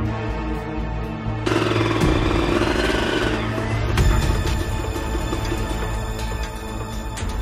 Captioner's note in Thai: เสียงมอเตอร์ไซค์